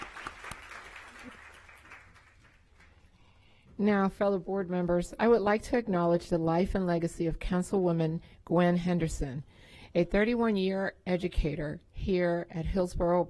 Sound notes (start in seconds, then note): 0.0 applause